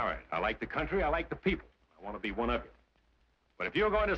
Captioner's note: none